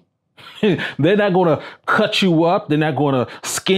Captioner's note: chuckles